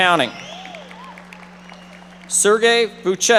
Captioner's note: audience applauding